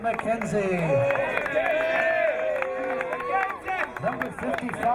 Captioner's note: crowd cheering